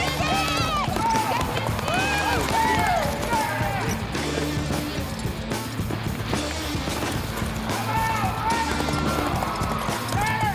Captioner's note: fast hoofbeats